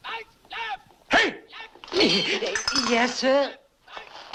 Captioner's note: gasps